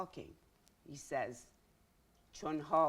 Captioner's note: speaking in Farsi